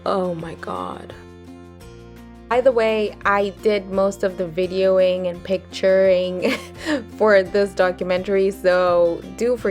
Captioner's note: chuckles